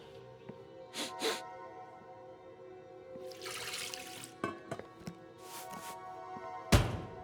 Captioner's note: chef sniffs; eerie music